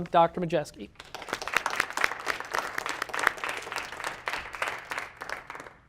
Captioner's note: audience applauding